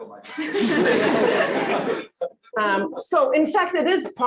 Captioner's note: laughter